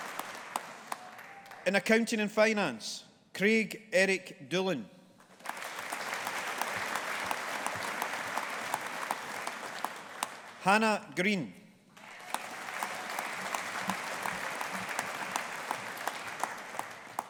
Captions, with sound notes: In Accounting and Finance, Craig Eric Doolan. (AUDIENCE APPLAUDING) Hana Green. (AUDIENCE APPLAUDING)